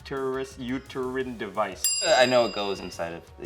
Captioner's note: bell chimes